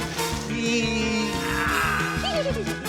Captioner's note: groans; giggles